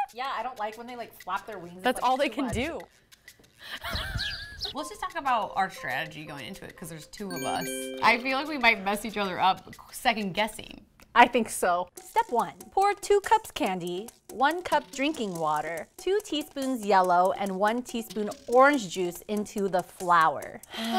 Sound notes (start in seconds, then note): 3.6 laughs; 3.8 birds chirping; 20.7 both sighing